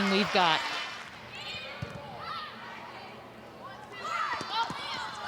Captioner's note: players shouting indistinctly